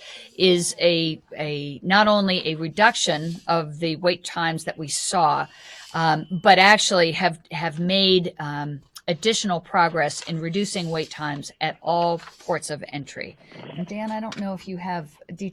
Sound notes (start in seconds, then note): 13.4 interference on phone line